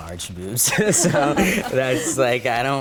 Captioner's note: contestants chuckle softly